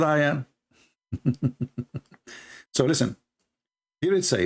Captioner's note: Ketawa